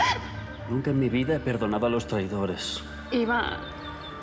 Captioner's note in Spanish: sollozos